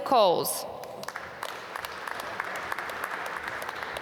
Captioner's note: applause